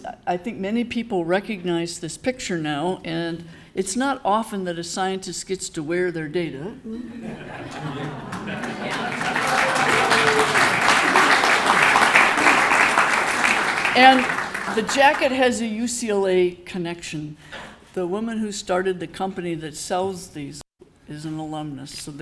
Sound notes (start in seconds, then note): 7.0 audience laughing; 7.4 audience applauding